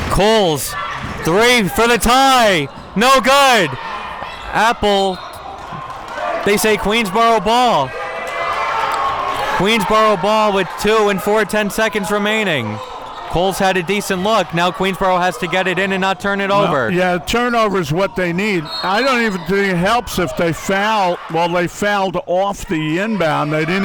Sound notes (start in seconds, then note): 5.0 whistle blows; 7.9 audience clamoring